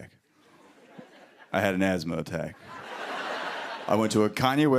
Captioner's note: laughter